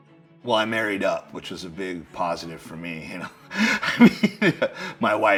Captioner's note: laughs